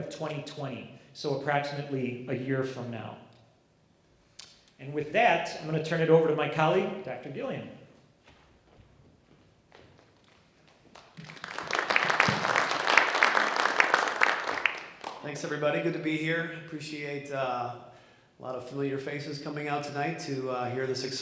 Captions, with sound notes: So approximately a year from now. And with that I'm going to turn it over to my colleague Dr. Gillian. (audience clapping) >>Thanks everybody. Good to be here, appreciate a lot of familiar faces coming out tonight to hear this exciting plan.